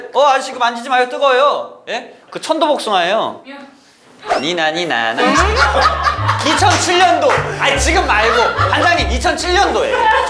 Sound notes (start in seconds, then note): 5.0 ah ha ha ha ha